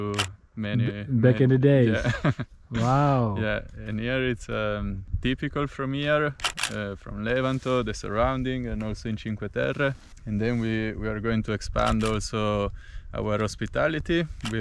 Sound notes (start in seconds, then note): 0.1 camera shutter clicking; 1.8 laughs; 6.4 camera shutter clicking